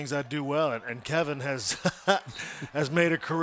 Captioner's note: laugh